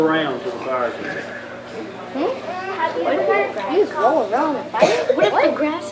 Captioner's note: children chattering